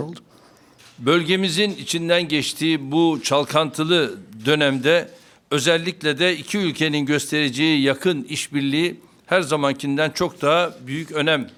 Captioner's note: speaking Turkish